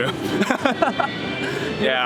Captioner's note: laughs